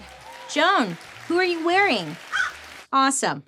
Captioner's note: Joan caws